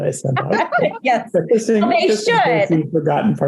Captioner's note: laughs